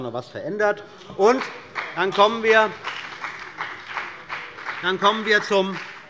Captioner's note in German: Beifall bei dem BÜNDNIS 90/DIE GRÜNEN und bei Abgeordneten der LINKEN